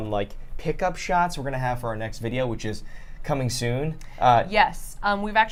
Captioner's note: none